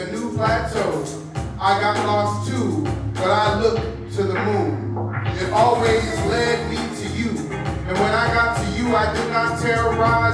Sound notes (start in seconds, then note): 6.3 Arabic; 8.0 Vietnamese